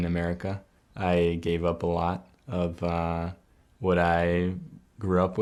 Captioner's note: speaking spanish